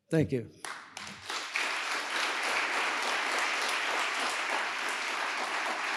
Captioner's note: audience applauding